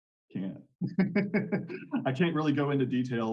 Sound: laughing

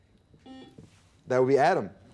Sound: buzzer beeping

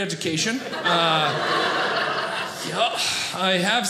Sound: audience laughing

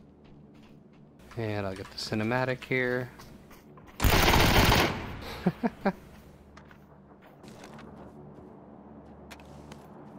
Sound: ha ha ha

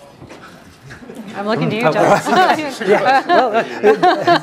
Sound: laugh

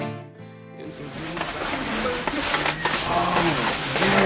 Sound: paper crinkling

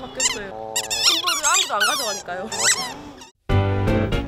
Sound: teary

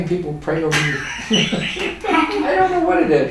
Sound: both laugh

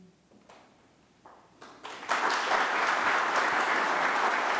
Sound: audience applauding

